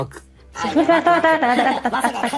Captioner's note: laughs